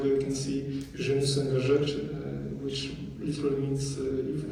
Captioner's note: speaking french